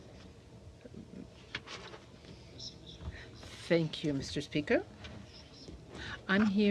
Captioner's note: speaking in french